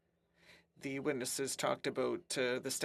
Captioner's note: speaking French